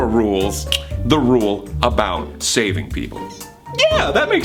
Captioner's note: clicks tongue